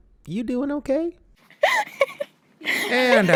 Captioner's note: laughing